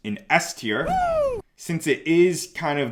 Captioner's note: man cheering